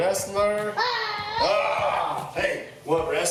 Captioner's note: both growling